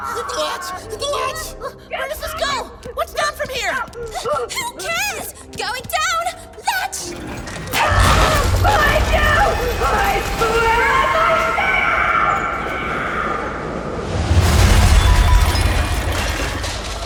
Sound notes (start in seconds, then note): 10.5 screaming in the distance